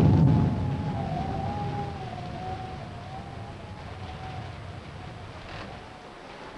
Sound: rain pattering; wind howling

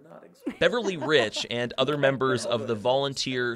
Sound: voiceover

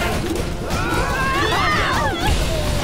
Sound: screaming

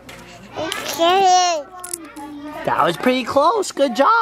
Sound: baby talk

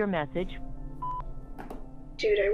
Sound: beep

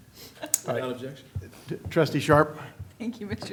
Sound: laughter

